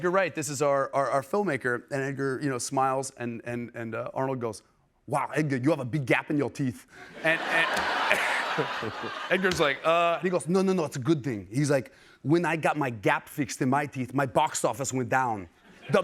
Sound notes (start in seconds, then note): 7.0 laughter; 8.9 normal voice